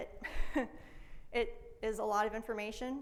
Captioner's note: laughs